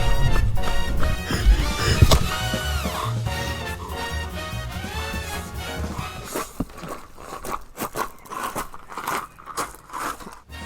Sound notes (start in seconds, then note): 1.3 panting; 6.7 footsteps approaching